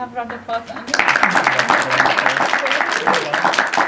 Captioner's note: audience clapping